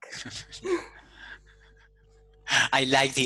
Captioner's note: laughs